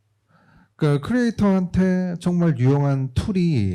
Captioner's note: speaking korean